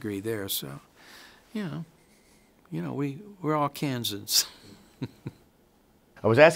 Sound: chuckles

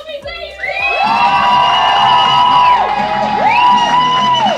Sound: crowd cheering

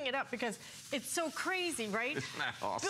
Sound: laughter

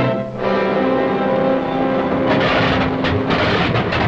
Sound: engines starting

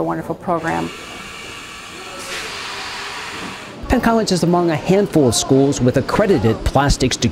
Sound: machine noise

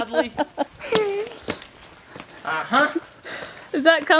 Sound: laughing

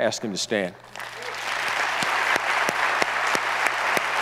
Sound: audience applauds

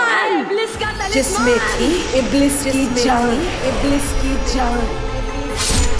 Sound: echoing

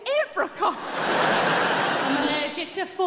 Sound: audience laughs

